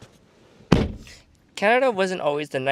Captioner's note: car door slams